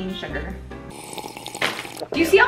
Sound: sipping sounds

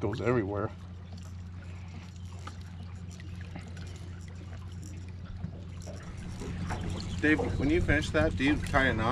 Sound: tackle rattling

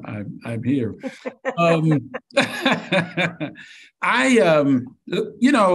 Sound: laughing

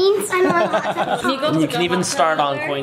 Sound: laughs

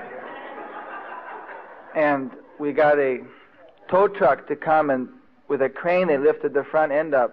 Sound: devotees laughing

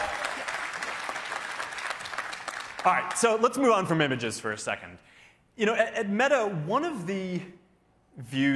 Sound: cheers and applause

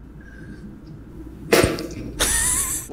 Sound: thump

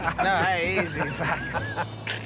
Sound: laughter

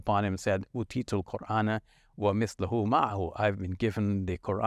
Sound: speaking in foreign language

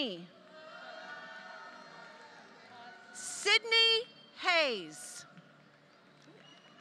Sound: applause

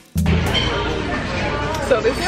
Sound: bystanders murmuring

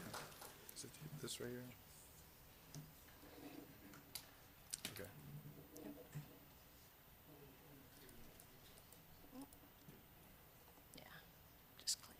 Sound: applause

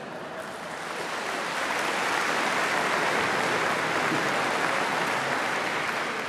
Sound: applause

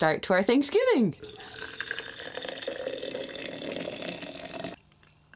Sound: water pouring

